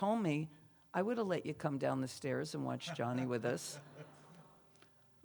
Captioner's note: laughs